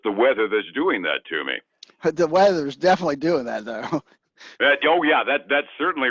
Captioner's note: laughs